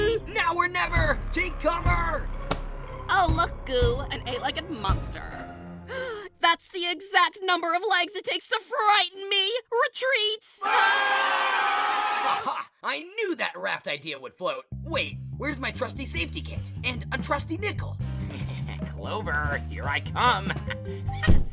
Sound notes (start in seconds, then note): 5.9 gasps; 10.6 both scream